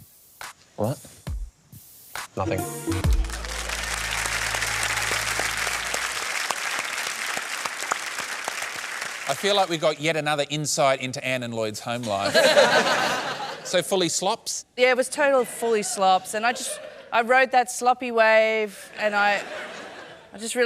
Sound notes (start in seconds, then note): 4.8 applause; 12.2 laughter